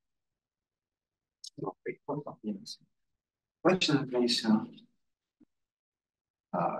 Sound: audio distorting

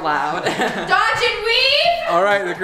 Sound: laughing

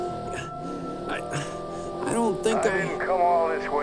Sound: grunts

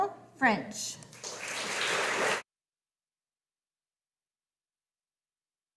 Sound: audience applauding

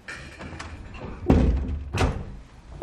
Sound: door closing

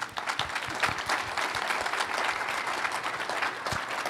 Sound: applause

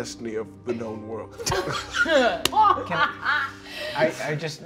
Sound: all laughing

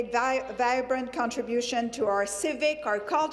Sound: speaking French

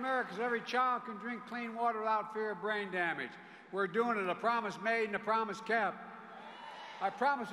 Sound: cheers and applause

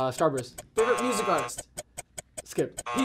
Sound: buzzer

